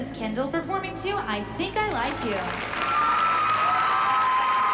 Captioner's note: cheering